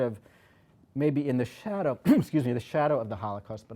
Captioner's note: coughs